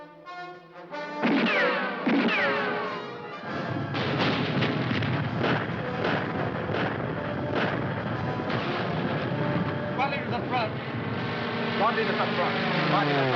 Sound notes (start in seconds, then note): 0.2 tense music; 1.3 bombs exploding; 1.3 guns firing